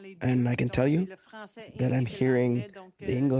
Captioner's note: speaking French